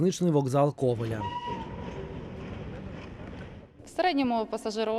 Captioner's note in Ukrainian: їде потяг